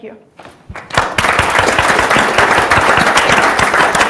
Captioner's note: audience applauds